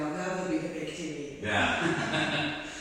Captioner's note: laughing